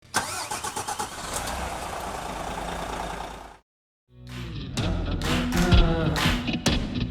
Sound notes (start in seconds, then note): 0.1 engine roaring; 4.2 digital music